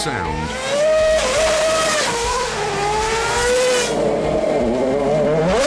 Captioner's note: car engines whine